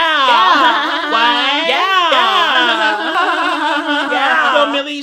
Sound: vocalizing

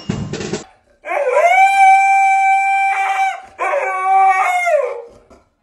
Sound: dog howling aggressively

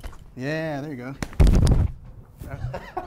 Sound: slapping; banging; laughing

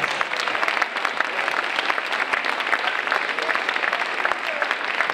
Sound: audience applauding

